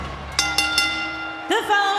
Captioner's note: bell rings